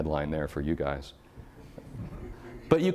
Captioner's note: audience chuckling